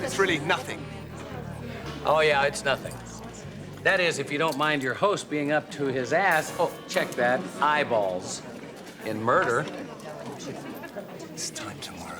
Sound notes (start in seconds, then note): none